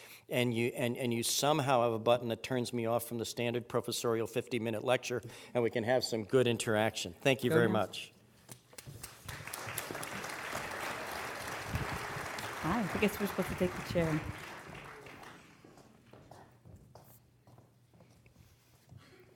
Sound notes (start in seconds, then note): 8.9 applause